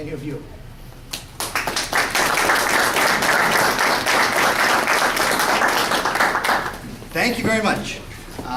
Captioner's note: applause